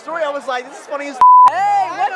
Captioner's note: beep